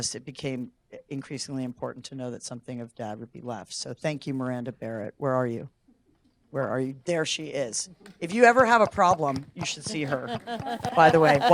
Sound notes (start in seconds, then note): 8.2 audience applauding